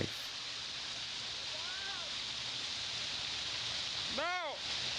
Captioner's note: water splashing